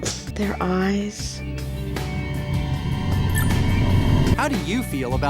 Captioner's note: eerie tone growing